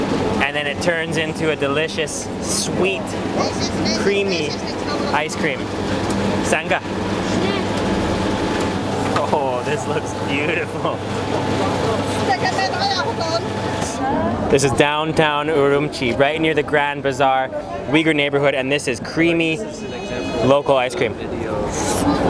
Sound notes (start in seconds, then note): 6.5 speaks foreign language; 12.4 speaks foreign language